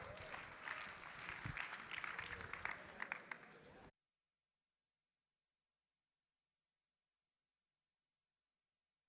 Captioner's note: applause